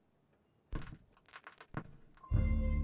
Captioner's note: record crackling; atmospheric jazz music